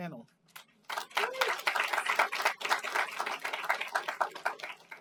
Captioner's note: applause